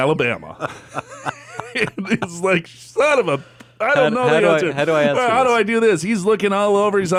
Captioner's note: laughs